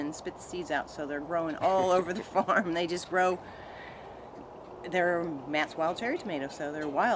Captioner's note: chuckling